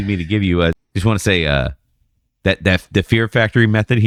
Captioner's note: uh